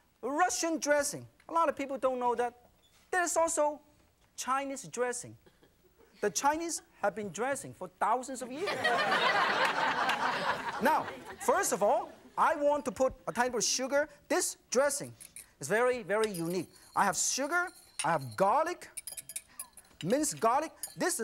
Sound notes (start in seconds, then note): 8.6 audience laughing